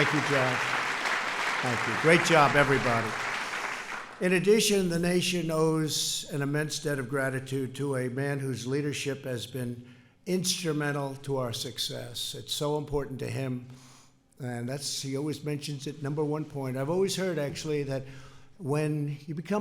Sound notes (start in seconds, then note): 0.0 applause